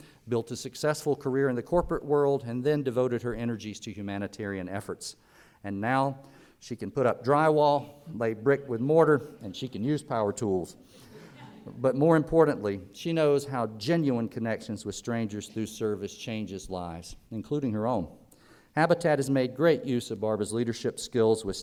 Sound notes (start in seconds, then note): 11.1 audience laughter